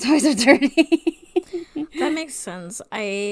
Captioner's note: laughs